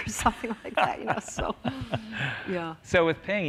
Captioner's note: laughter